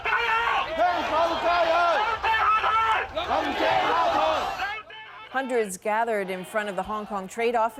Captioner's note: chanting